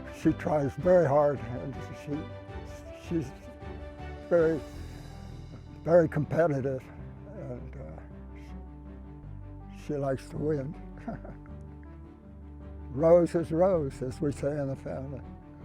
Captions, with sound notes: She tries very hard, and she's very, very competitive. And she likes to win. (laughing) Rose is Rose, as we say in the family.